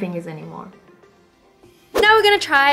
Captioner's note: SIlence